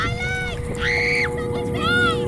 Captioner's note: screaming